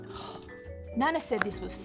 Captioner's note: host sighing